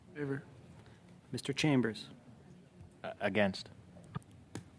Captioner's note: speaking French